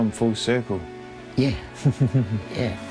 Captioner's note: laughing